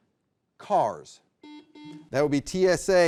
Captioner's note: buzzer beeps